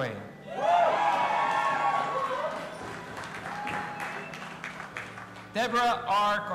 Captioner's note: audience applauding and cheering